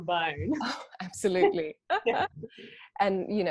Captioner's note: laughs